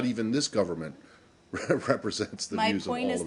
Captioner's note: laughter